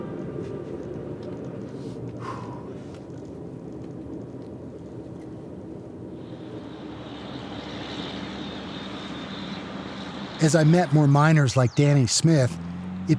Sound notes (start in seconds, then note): 2.2 exhales